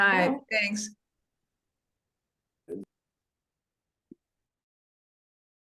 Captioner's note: various voices